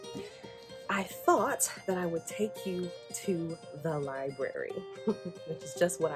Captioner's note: laughs